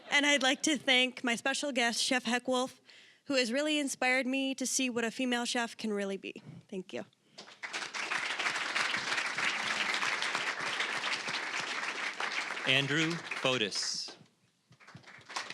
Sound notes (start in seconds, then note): 7.4 applause